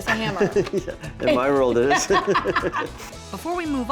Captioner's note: laughter